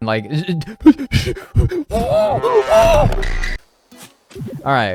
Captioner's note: hyperventilating